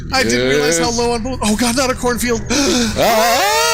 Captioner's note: gasps